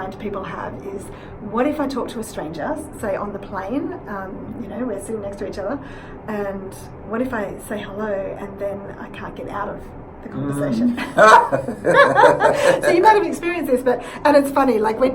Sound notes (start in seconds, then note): 10.9 both laugh